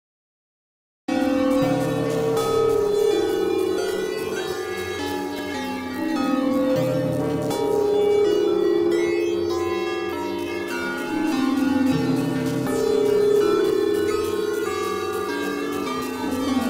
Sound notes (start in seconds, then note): 1.1 sound of graveyard bells